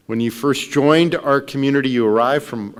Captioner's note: none